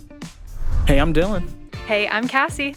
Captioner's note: upbeat music; screen whooshing